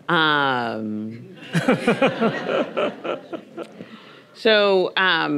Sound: everyone laughing

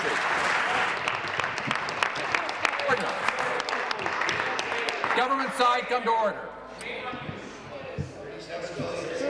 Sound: applause

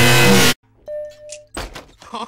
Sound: ding!

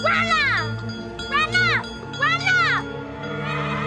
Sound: bell rings

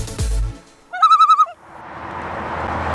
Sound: loon call

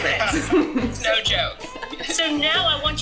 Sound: all chuckling

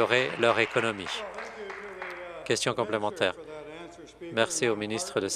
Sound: applause

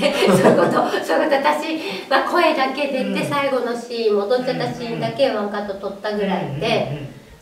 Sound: laughs

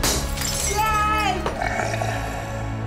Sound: growling

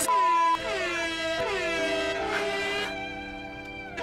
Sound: repetitive blaring; sad music

